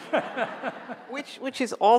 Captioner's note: laughing